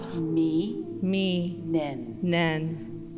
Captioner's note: In Mi’kmaq